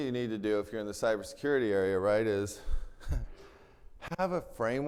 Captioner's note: chuckles